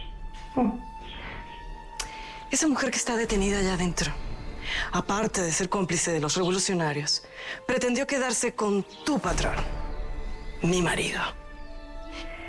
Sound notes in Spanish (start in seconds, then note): none